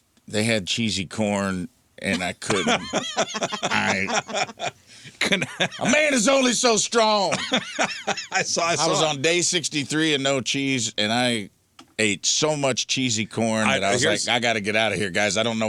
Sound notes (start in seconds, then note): 5.0 laughing